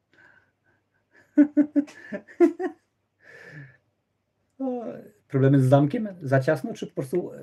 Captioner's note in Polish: śmiech